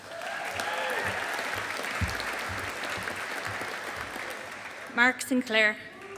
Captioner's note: audience applauding